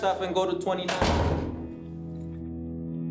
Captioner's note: door thudding; tense music